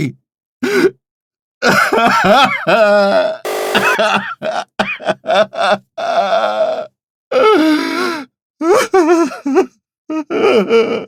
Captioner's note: ragged sobbing